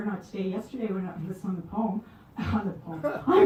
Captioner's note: chuckles